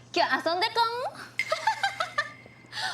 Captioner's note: in japanese; laughing